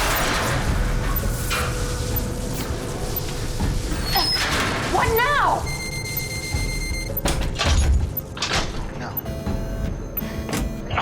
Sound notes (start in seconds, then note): 0.1 electrical Shortage; 4.9 beeping; 7.2 doors locking; 9.1 alarm Beeping